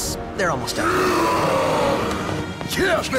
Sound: symbiotes roaring

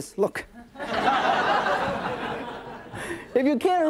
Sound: audience laughing

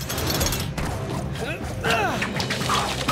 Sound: grunting

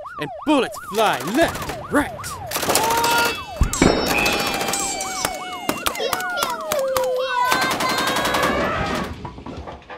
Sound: absurd battle noises go off

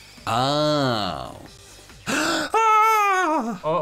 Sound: inhales deeply

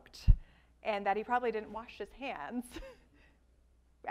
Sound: laughs

